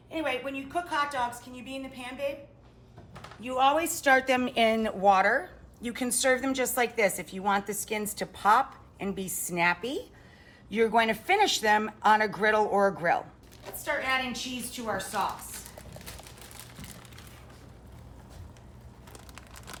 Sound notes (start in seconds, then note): 14.7 crumpling